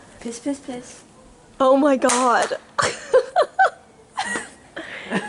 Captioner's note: laughter